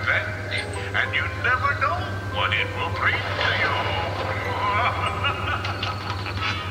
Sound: cackling

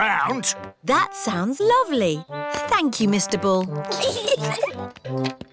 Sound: peppa and george giggle

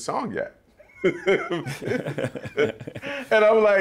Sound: laughter

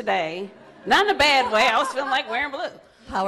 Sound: audience laughs

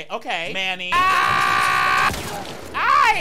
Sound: screaming

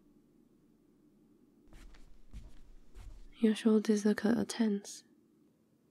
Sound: footsteps

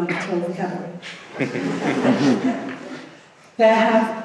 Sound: laughing

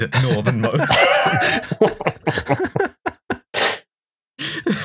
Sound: laughter

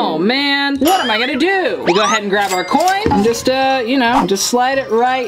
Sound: none

